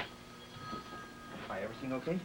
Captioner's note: phone rings